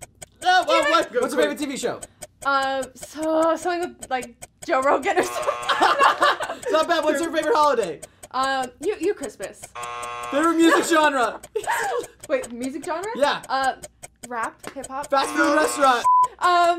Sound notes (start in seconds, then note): 5.0 buzzer; 9.7 buzzer